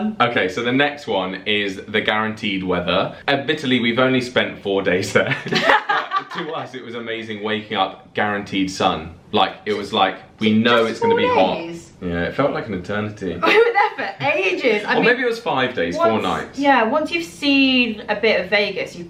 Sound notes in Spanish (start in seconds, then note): 5.2 laughs